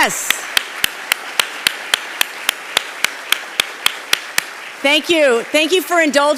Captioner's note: applauding; audience applauding